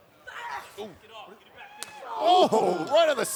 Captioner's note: wrestlers grunt